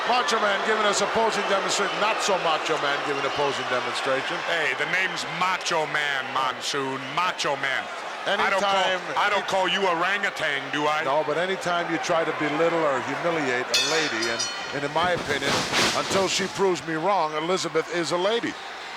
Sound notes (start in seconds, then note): 13.7 bell rings